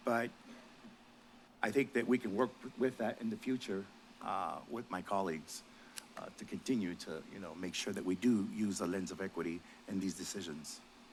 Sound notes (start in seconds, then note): none